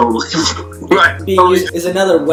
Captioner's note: laughter